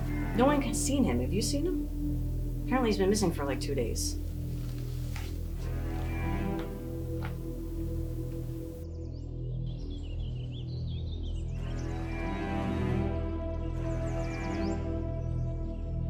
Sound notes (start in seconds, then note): 7.9 suspenseful music; 9.4 birds chirping; 11.2 suspenseful music